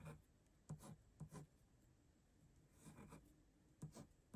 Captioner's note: pen writing